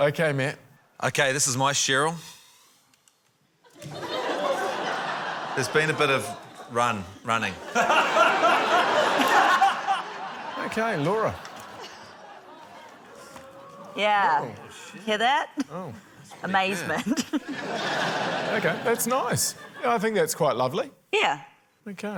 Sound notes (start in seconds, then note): 3.6 laughter; 16.9 laughter; 17.0 chuckles